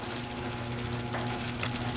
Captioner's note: garage door opening